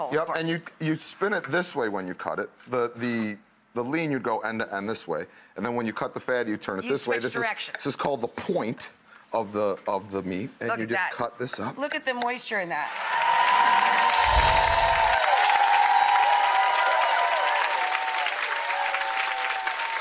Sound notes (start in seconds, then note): 12.9 audience applause; 14.2 twinkling music